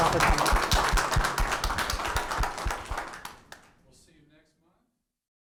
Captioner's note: audience applauds